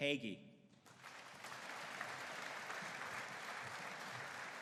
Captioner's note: audience applauding